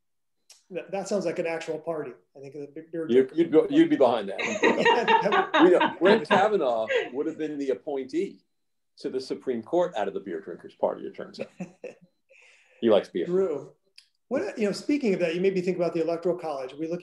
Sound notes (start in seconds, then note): 4.4 laughing; 11.4 laughing